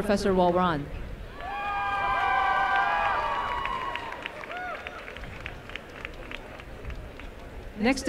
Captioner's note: applause and cheering